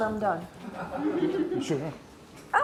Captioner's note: laughs